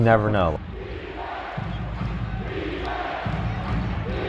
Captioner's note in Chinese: 群众欢呼声